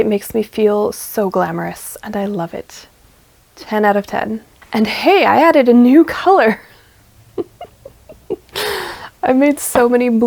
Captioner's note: laughs